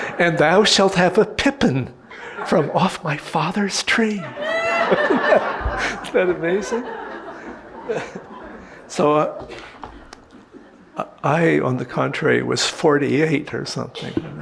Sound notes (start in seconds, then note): 4.3 audience laughing